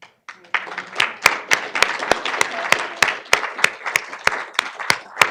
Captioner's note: audience clapping